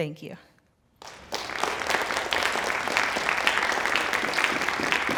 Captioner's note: applause